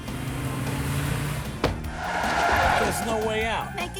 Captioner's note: tires Screech